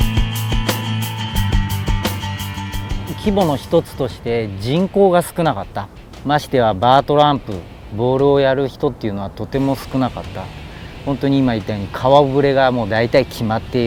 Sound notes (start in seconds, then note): 3.3 speaking in foreign language